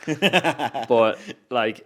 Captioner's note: host laughs